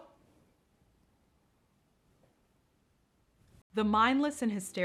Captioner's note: none